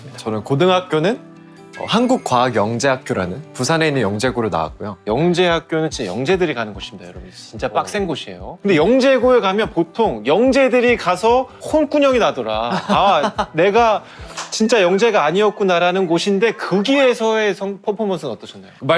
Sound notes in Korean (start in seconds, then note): 12.7 웃음